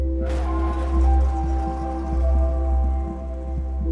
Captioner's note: tire screech, car crash noise, sirens